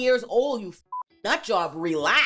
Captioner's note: beep